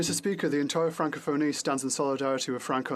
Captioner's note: speaking French